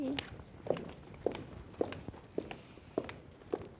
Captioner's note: footsteps echoing